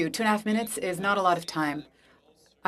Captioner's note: speaking French